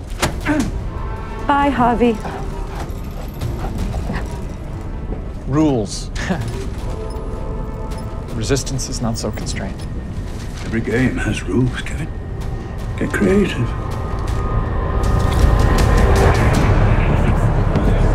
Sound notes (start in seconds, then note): 6.3 chuckles